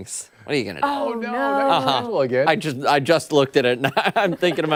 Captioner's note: laughter